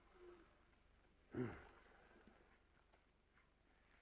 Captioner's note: sighs